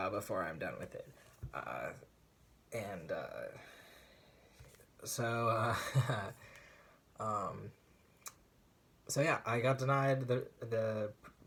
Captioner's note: tired laugh